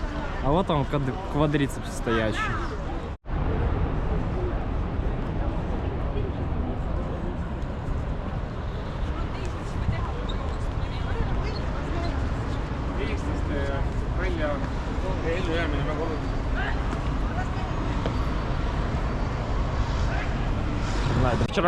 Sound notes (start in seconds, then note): 3.1 street sounds